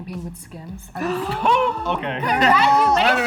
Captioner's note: all gasp